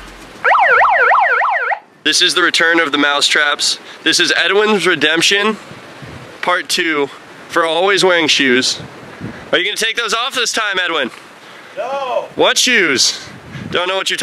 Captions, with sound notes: (siren) this is the return of the mouse traps edwin's redemption part II for always wearing shoes are u gonna take those off this time edwin?